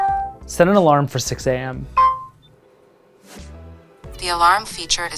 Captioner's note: pin beeping